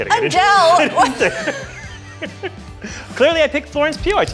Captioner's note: both laughing